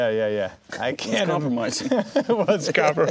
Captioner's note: laughing; laughs